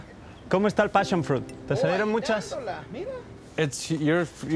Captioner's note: speaking in Spanish